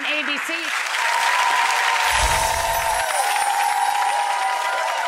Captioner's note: audience cheers